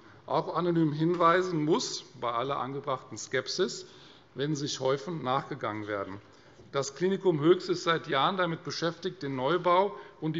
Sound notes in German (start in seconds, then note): none